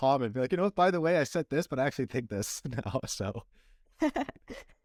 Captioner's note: laughter